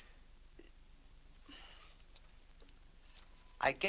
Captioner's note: sighs